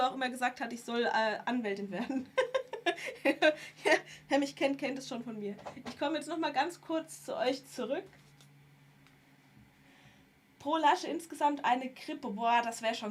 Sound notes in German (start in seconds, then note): 2.0 gelächter